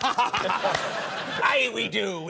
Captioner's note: Conan laughs; audience laughs